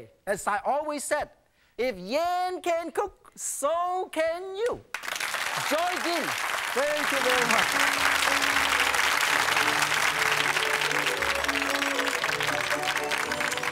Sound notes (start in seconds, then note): 5.0 audience applauding; 10.0 joyful music